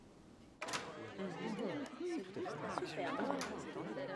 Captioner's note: hubbub of voices